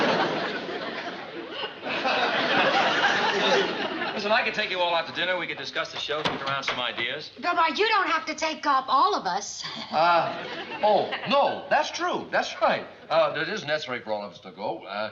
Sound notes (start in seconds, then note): 9.7 chuckles